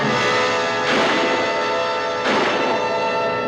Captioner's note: suspenseful music; gun fires